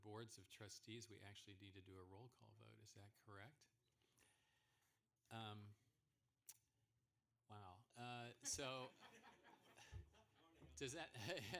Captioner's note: laughter